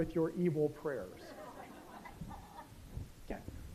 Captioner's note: laughter